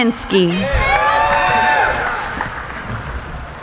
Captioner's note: cheering